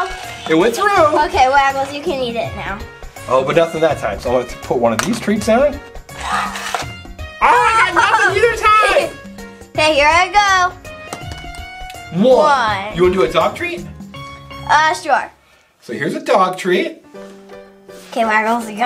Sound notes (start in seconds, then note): 7.6 assistant Laughs